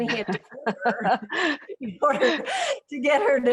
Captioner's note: Amy laughs